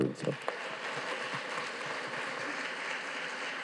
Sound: audience claps

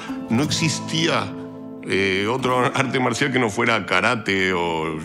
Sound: continues to speak in Spanish

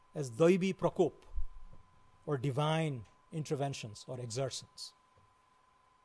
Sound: foreign language

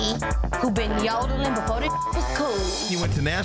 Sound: beep

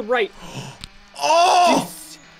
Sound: gasps

